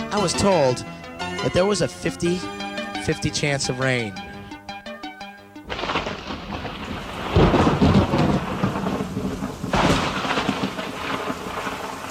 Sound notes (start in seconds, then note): 5.6 thunder rumbles